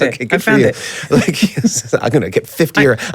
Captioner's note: laughs